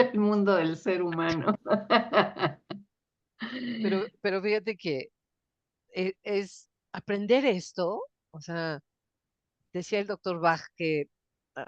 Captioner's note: laughs